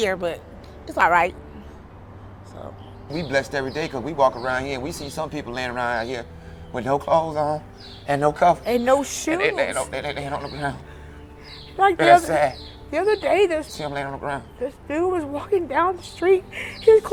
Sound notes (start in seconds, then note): 9.7 speaks quickly